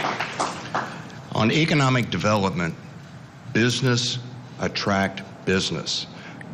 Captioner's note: applause